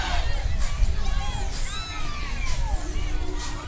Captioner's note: cheering